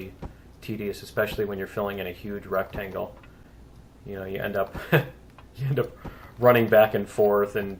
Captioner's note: laughs